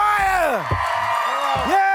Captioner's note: cheers and applause